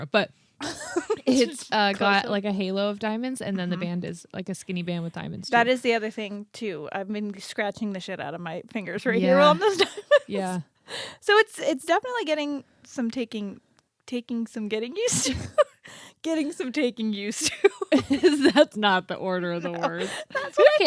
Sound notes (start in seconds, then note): 9.6 laughs; 15.6 laughs; 17.5 both laughing